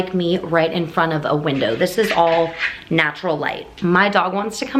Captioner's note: scratching sounds on door in background